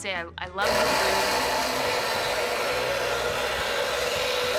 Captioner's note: blender whirring